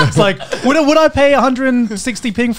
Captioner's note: laughs